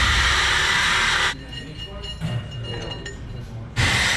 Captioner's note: power tools buzzing